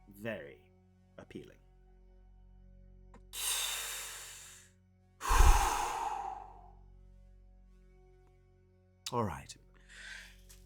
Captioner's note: deep Breath